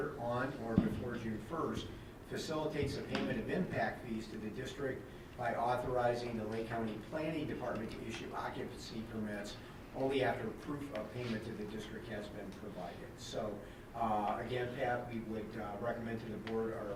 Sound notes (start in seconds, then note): none